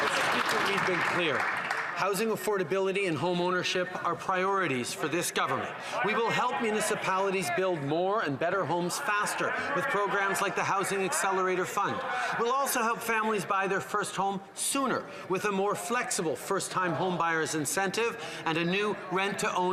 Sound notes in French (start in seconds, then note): 4.7 voix de l'interprète